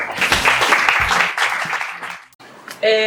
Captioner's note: applause